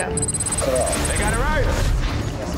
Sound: digital beeping

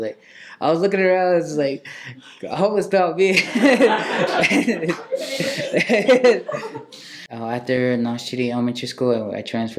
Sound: laughing

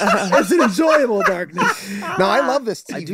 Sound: Glenn laughing

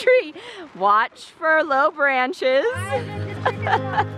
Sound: laughs

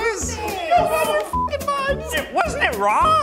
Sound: whimsical adventure music; beeps

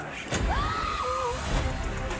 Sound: screaming

